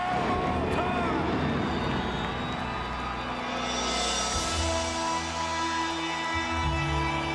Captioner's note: thunder rumbles; solemn funereal music